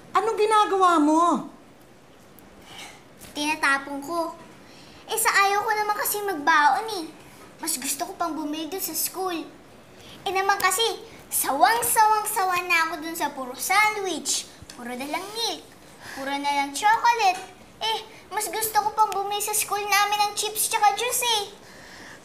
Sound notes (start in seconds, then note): 2.6 sighs